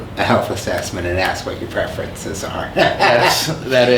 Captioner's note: laughs